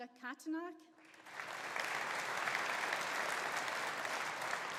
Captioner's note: audience applauding